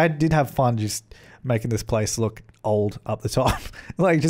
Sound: giggle

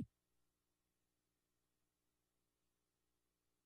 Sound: silence

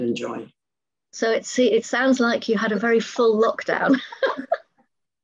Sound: laughs

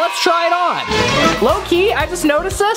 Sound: dramatic sound

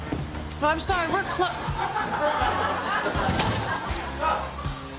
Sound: audience laughing

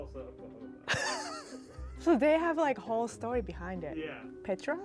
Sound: laughs

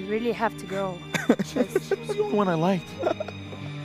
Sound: laughs

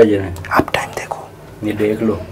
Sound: whispers

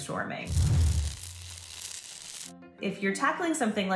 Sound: electricity buzzing

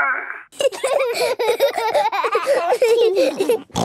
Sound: giggling

